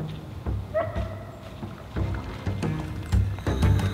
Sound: dog barking

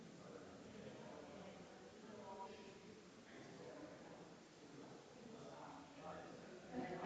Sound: people chattering distantly continues

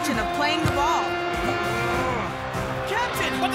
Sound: grunting

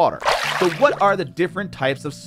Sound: water splashing

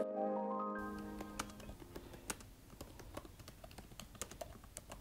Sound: keyboard clanking

